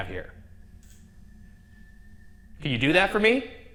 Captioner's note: room ambience